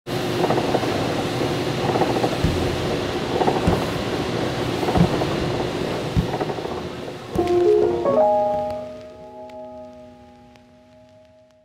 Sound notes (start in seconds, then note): 0.4 machinery whirring; 2.5 bagels thudding; 7.3 gentle melodic music